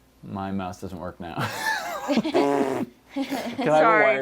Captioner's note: laughter